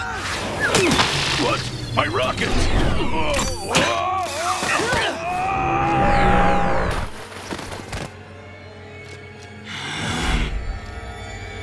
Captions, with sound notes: What? My rocket! [screaming] [growling]